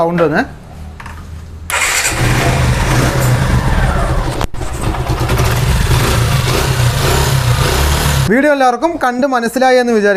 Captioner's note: engine sound